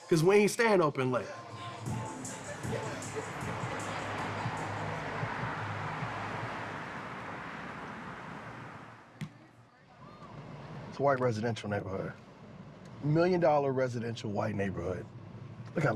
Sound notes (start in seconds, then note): 4.2 traffic streaming